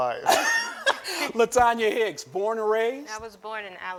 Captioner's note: laughing